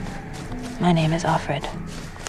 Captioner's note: voiceover